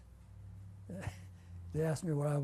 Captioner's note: laughs